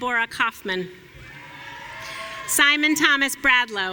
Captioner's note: audience cheering